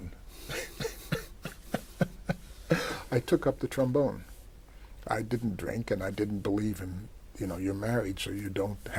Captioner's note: laughs